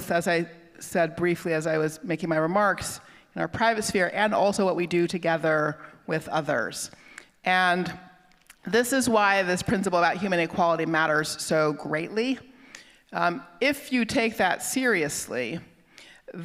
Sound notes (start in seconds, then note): none